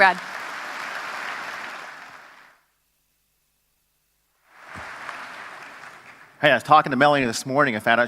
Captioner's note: applause